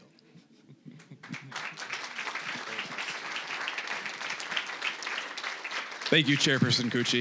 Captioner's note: applause